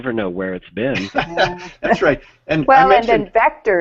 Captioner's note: laughs